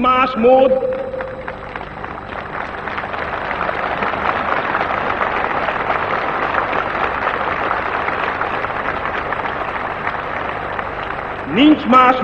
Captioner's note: applause